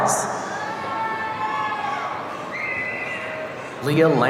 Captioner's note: audience cheering